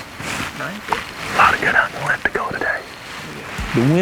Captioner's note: whispering